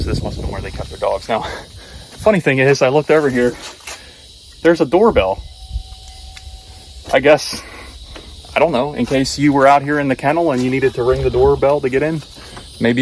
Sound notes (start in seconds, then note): 5.6 doorbell chimes